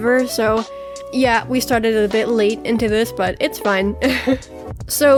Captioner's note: giggles